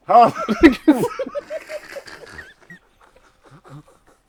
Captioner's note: laughter